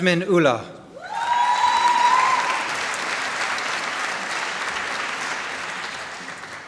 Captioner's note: applause